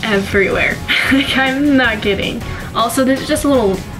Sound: laughs

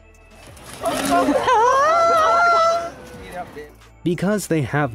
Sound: crowd laughing

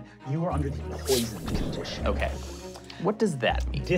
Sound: bubbling

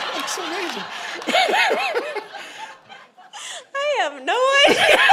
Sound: congregation laughing

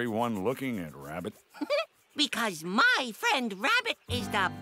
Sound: chuckling

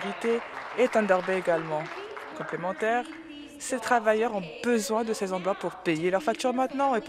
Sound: applause

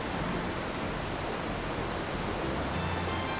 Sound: water rushing

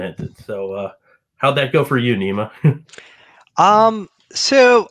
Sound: laughing

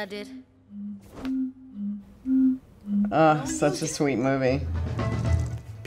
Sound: bottle whistling

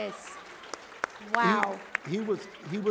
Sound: applause

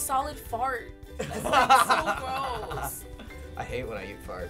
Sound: laughs

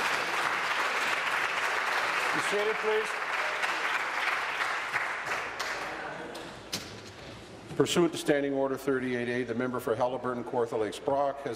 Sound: applause

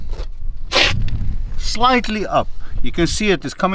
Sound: scraping against ground

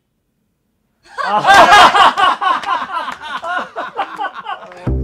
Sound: laughing

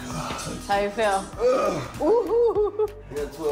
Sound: groan

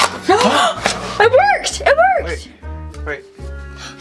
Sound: gasps

